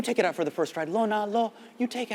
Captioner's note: speaks in Hindi